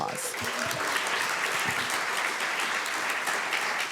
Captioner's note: applause